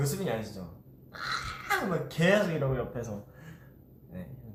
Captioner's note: ahhhhh